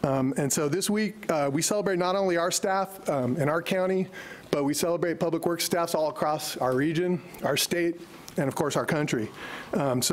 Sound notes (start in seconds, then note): none